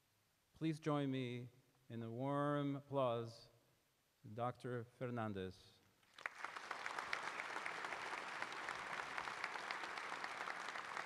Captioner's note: applause